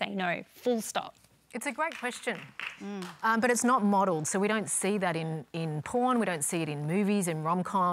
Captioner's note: applause